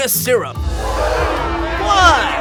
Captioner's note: gasps